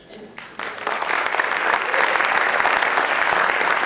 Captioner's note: applause